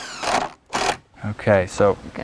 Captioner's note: drill whirring, no additional audio